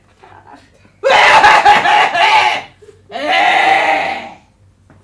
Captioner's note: coughs